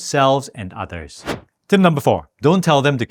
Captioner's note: air whooshing